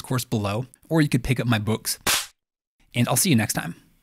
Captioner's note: slapping